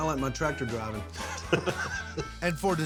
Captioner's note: chuckling